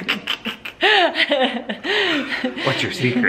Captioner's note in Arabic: ضحك